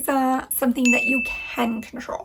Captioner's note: bell dings